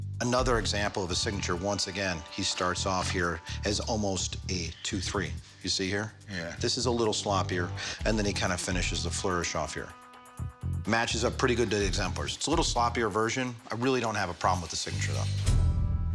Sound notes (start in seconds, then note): none